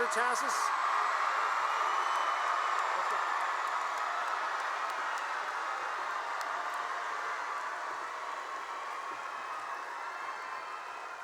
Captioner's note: cheering and applause